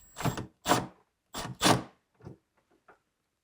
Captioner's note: tool whirring